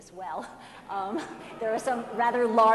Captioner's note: audience laughs